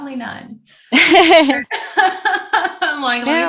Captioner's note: laughs